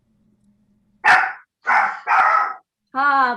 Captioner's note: dog barking